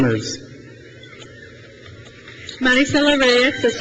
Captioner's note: crowd cheers